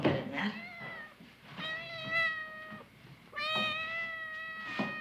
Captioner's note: cat meows